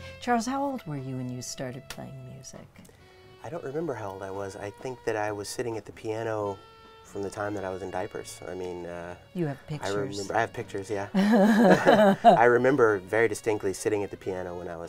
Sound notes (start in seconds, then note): 11.1 laughing